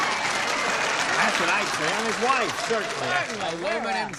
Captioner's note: cheering